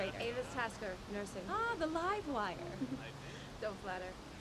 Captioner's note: giggles